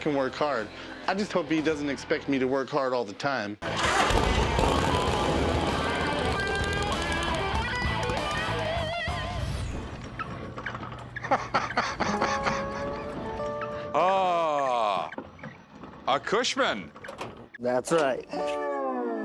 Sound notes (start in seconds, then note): 3.1 engine rumbles; 11.1 laughs